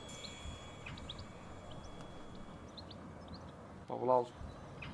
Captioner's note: birds chirping